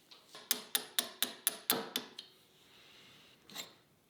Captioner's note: hammer tapping